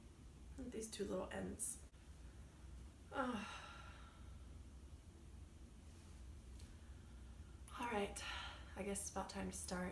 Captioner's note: sigh